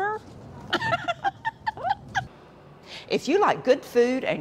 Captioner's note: laughing